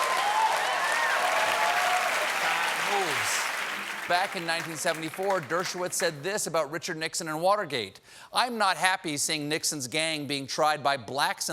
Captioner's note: cheers and applause